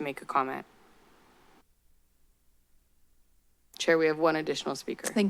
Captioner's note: silence